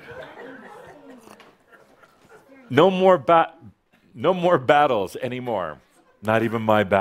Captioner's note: some chuckles